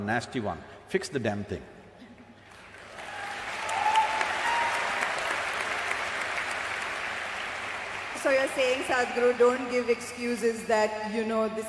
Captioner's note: cheering